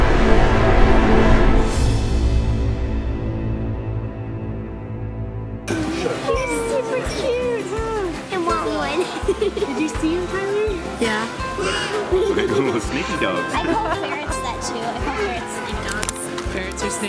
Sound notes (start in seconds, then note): 8.7 giggles; 13.8 chuckles